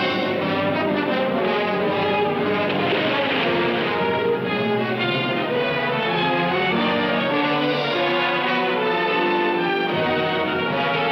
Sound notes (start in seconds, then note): 1.3 splashing